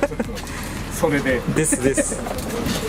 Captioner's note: laughs